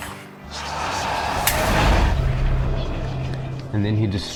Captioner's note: shotgun blast